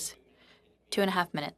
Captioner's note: speaking French